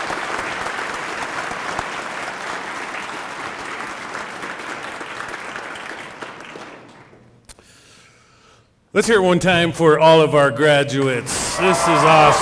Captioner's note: applause